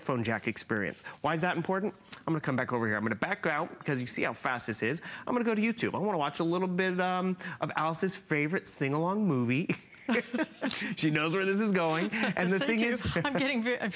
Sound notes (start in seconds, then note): 9.7 laughter